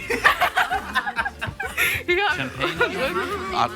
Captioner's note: group laughs